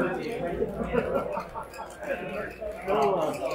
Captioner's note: laughter